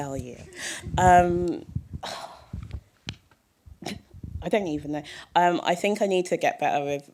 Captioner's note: sigh